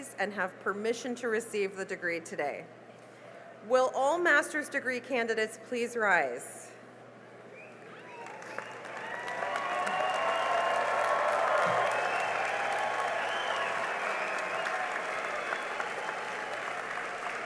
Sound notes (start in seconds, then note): 6.6 cheering and applause